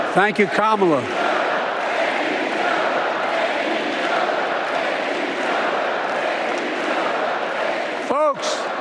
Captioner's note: applause